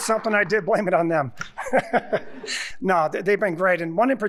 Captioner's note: chuckling